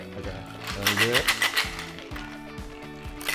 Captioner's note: ice shaking